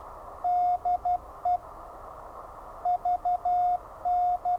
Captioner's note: electronic beeping